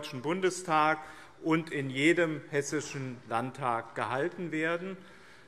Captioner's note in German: none